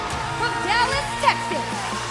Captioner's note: cheers and applause